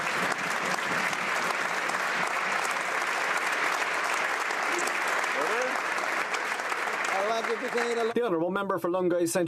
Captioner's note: applause